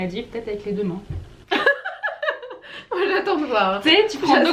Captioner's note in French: rires